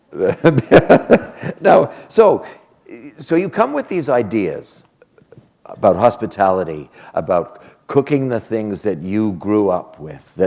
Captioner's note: chuckle